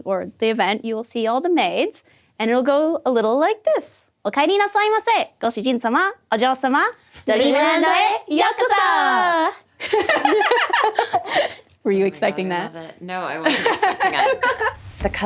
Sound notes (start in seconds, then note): 4.5 foreign language; 9.8 all laughing